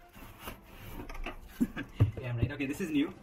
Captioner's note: laughter